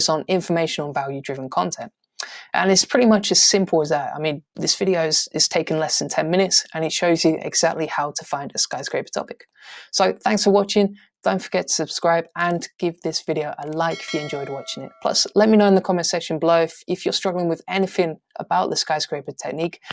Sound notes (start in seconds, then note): 13.8 bell sound rings